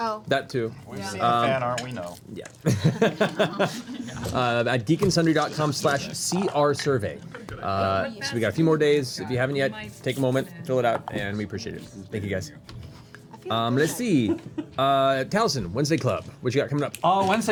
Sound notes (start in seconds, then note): 2.6 laughs